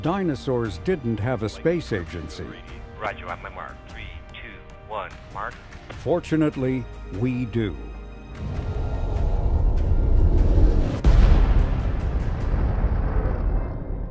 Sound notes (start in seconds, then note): 3.2 chatter on radio; 9.2 soft intriguing music; 11.2 explosive detonation